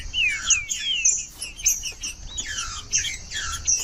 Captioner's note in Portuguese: trinca ferro cantando